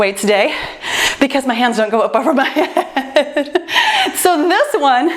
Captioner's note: laughs